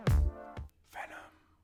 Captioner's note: whispered